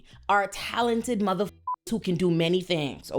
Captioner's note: beep